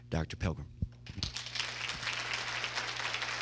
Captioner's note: applause